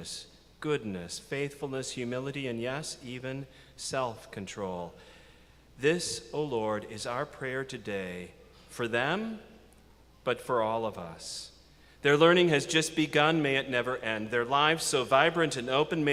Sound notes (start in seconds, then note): none